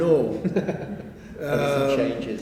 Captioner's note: laughter